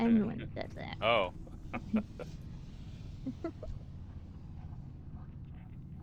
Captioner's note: laughing